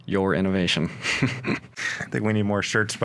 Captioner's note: chuckles